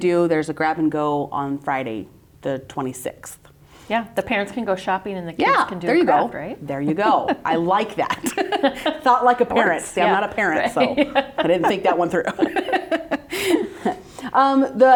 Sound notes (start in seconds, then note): 8.8 participants laughing; 12.5 laughs